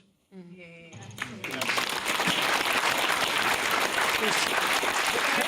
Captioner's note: cheering and applause